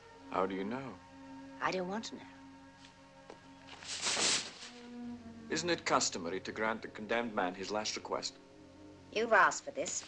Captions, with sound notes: How do you know? I don't want to know. [Footstep] [Rustling] Isn't it customary to grant the condemned man his last request? You've asked for this.